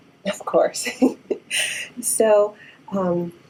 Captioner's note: chuckling